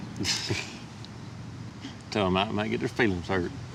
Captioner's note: both chuckling